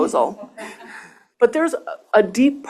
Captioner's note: laughter